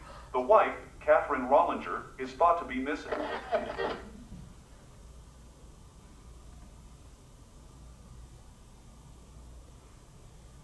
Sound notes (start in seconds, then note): 2.9 radio static